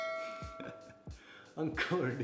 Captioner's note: chuckles